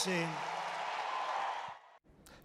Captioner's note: applaus